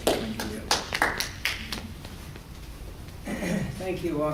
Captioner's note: applause